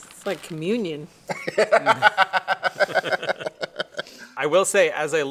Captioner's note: laugh